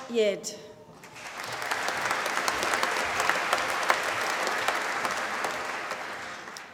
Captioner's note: applause